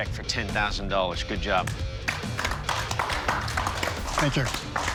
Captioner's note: applause